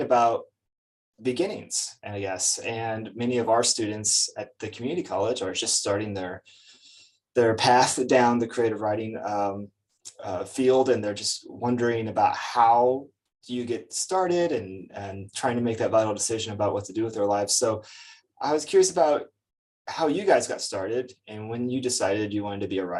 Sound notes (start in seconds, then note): none